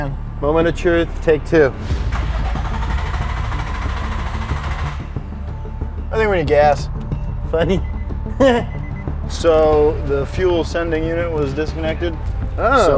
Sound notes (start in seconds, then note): 2.1 car engine turning over; 8.4 laughs sardonically